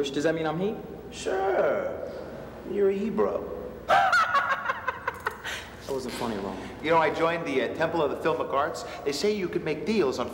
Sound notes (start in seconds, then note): 3.9 Fisher laughs